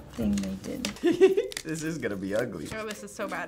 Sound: laughs

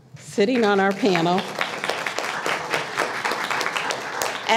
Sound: applause

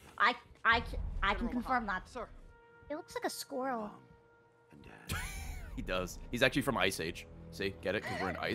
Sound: laughs

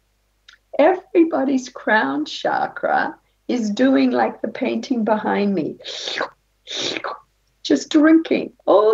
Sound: sucking noise

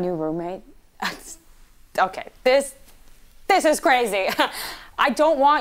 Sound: scoffs

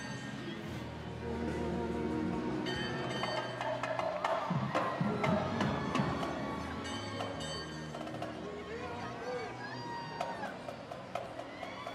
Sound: train horn

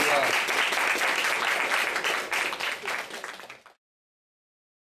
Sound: applause

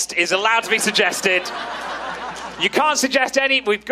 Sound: audience laughing

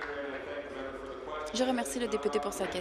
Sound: applause

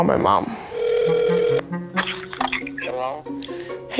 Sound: phone ringing

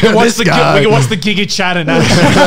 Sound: laughing loudly

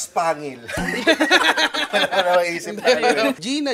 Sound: both laugh

